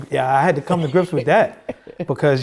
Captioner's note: laughing